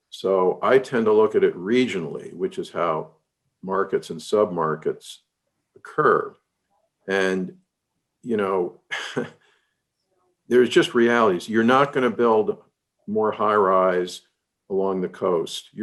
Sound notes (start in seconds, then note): 8.8 chuckles